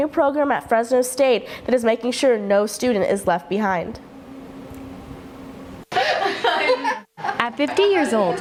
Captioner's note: laughter